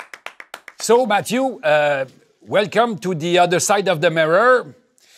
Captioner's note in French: applaudissements; en anglais